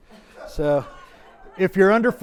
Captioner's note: audience laughs